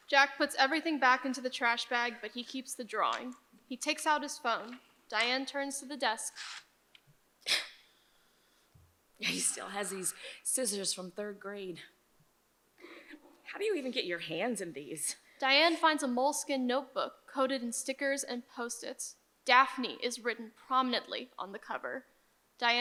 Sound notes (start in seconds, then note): 9.2 chuckles